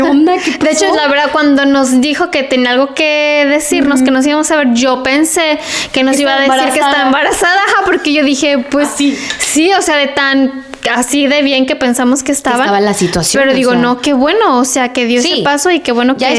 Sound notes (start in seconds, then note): 7.7 laughs